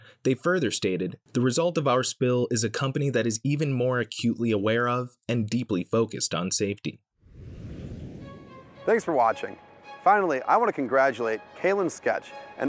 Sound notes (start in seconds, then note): 7.2 air whooshing; 8.1 calming music